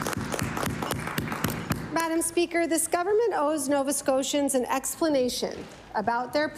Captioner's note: applause